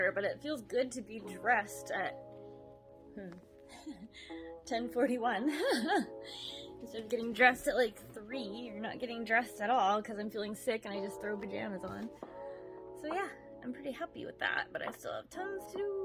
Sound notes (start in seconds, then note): 3.6 laughs